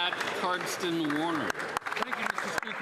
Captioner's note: some Applause